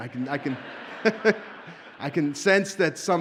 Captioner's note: audience laughs